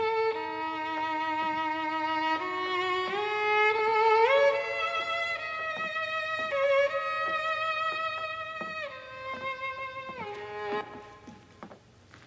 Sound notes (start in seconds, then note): none